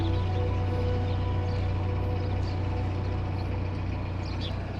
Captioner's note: birds chirping